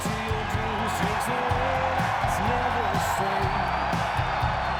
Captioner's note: audience cheering